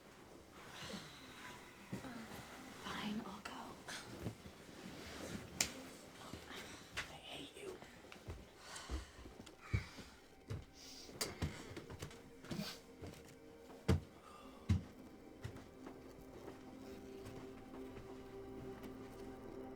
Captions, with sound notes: Fine, I'll go. (slapping) - I hate you. (sighing)